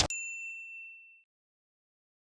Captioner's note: bell